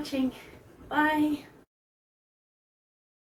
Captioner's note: silence